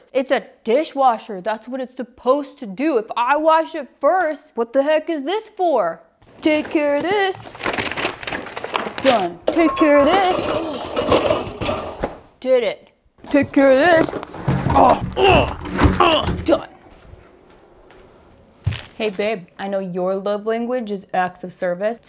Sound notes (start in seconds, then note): none